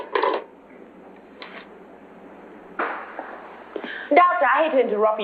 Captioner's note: none